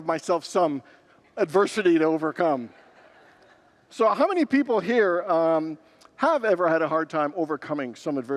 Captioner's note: congregants laugh